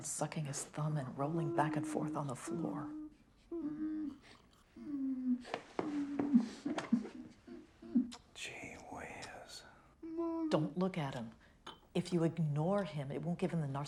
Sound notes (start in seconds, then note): 4.8 Richard whimpering